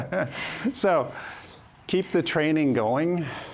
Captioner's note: laughs